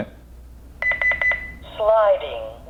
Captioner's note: beep, beep, beep